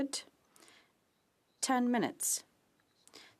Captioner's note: speaking French